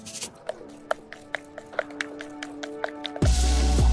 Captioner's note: paint stirring